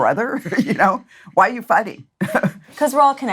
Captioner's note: laughs